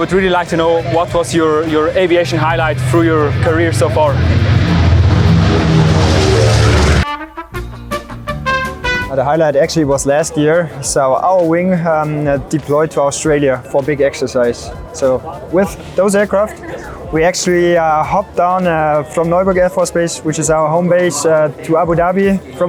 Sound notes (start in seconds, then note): 4.5 engine roaring; 6.8 playful music